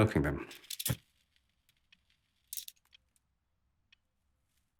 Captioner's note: lighter flicks